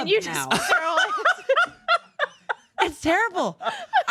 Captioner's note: laughs